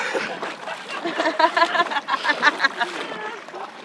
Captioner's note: others laughing